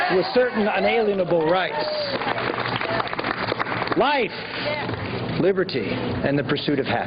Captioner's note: applause